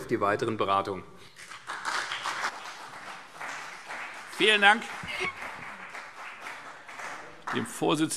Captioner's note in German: Beifall CDU und BÜNDNIS 90/DIE GRÜNEN